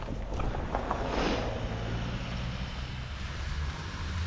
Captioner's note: vehicle whirring